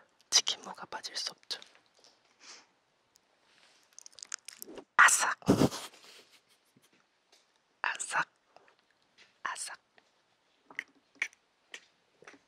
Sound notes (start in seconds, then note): 3.8 sound of eating radish; 7.7 sound of eating radish~